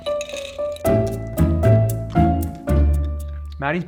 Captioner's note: chewing